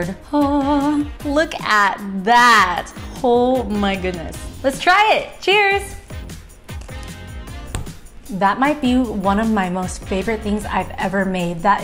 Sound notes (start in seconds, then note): 6.6 eating